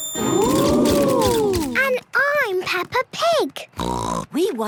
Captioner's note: snort